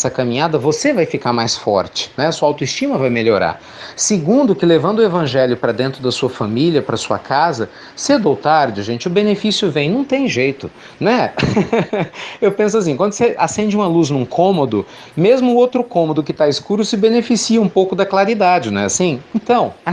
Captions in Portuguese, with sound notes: você vai ficar mais forte, sua autoestima vai melhorar. Segundo que, levando o Evangelho para dentro da sua família e da sua casa, cedo ou tarde, gente, o benefício vem. Não tem jeito. (Risos) Eu penso que, quando você acende a luz em um cômodo, o outro cômodo que está escuro se beneficia um pouco da claridade. Não é assim?